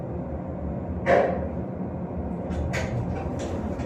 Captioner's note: clank